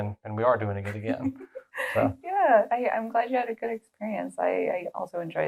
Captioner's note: laugh